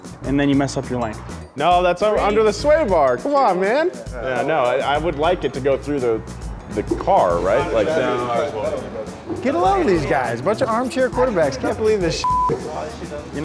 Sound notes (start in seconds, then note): 6.4 chattering